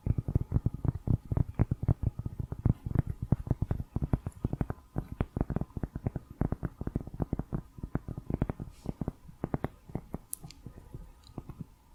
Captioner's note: tapping on cork